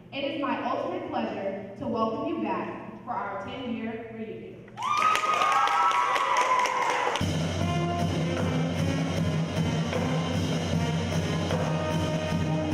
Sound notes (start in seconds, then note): 4.8 cheering; 7.1 marching band music